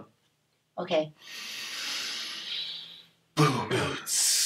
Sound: all inhaling deeply

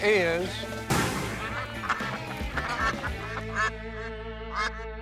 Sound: ducks quacking

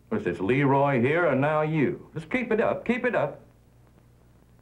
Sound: none

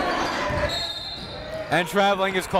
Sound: whistle blows

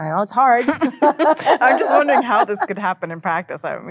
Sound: women laugh

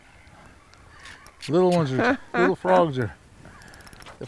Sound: chuckling

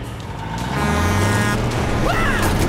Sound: honking; screaming

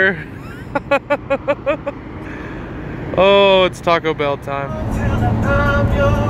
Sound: laughs

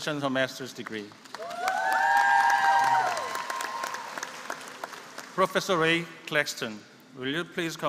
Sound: applause

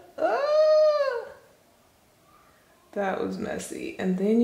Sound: cries out

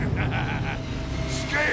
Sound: laughter

